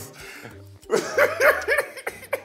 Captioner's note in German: Lachen